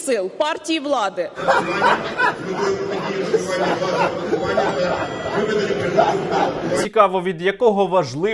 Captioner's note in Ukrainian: сміється